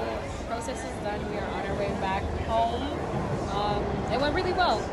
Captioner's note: crowd Noise